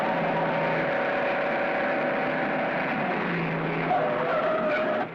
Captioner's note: car engine roaring; tires screeching